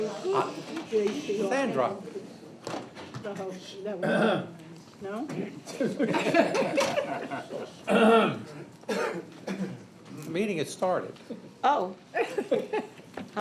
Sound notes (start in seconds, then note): 4.0 clears throat; 5.7 laughter; 7.8 clears throat; 12.2 chuckles